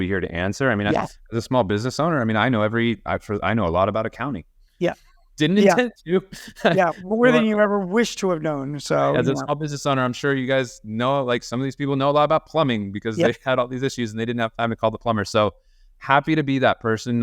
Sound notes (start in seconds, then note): 6.3 chuckles